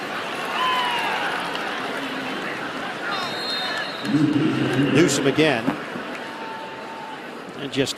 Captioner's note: crowd noise